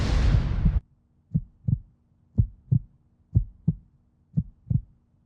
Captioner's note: heart beating